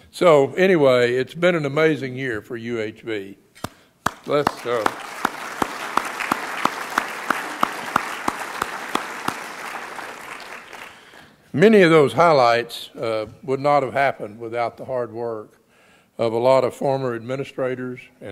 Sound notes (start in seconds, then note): 4.0 claps; 4.0 audience applauds